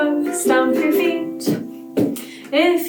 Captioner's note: feet stomping